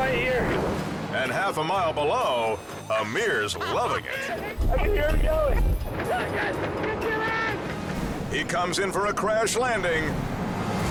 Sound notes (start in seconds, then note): 3.5 laughing; 10.6 suspenseful music